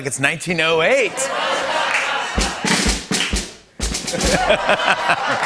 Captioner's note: laughter